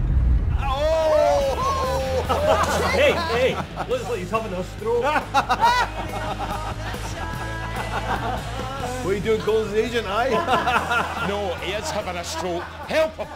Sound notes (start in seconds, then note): 1.3 laughter; 10.2 laughter; 10.3 laughter stops